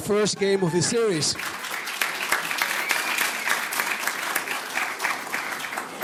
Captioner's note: audience cheers and applauds